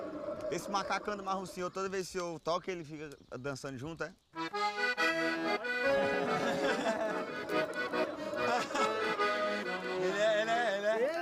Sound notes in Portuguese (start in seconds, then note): 4.5 continua tocando instrumento; 5.6 todos rindo